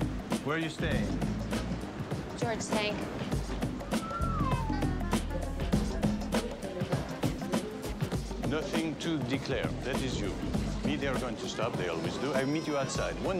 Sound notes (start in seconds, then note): 3.8 whistles